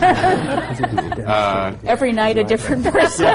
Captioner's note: laughter